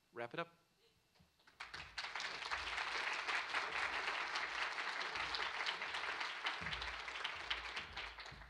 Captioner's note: applause